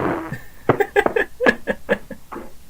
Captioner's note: chuckles